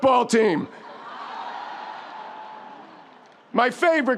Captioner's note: audience laughs